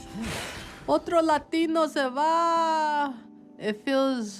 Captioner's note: speaks in foreign language